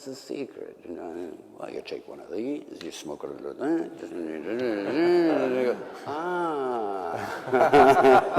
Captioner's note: laughter